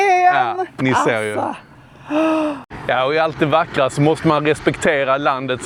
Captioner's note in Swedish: drar efter andan